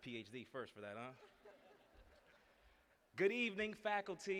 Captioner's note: laughter